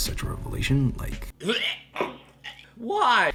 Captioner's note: vomits